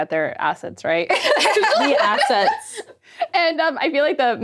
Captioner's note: laughing